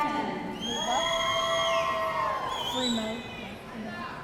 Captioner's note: audience cheering